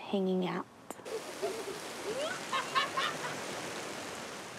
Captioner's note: water splashes, girls laugh